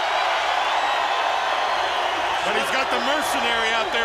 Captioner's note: crowd cheering